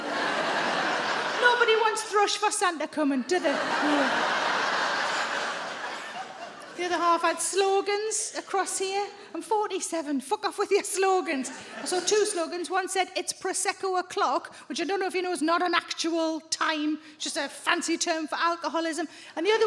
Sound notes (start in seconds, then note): 0.0 audience laughing